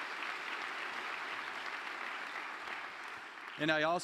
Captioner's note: applause